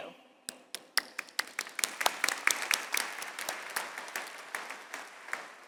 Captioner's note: audience applauds